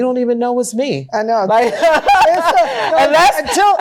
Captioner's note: laughing